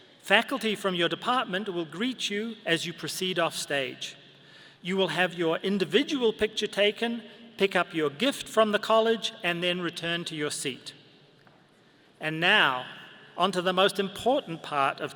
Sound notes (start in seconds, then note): none